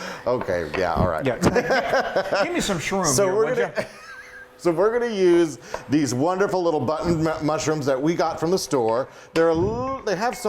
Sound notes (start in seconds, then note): 1.3 chuckling